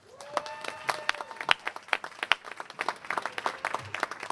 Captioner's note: applause